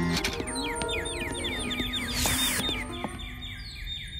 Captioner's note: sound of chirping birds